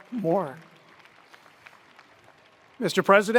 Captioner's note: attendees applauding